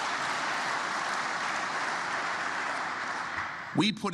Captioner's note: applause